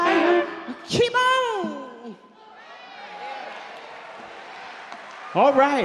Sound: audience cheer and clap

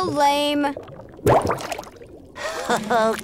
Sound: popping

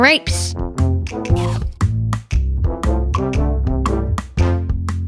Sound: Ed chomps

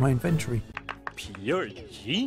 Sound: clap clap clap

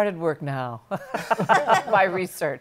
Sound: laughter

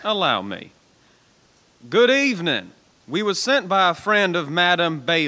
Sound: shouts up

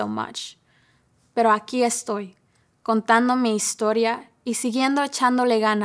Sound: speaking foreign language

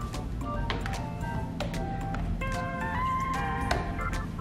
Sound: wood steps creaking

